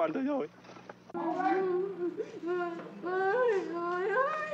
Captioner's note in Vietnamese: Tiếng khóc